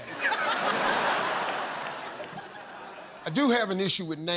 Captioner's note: laughter